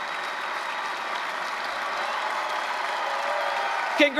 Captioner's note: applause, cheering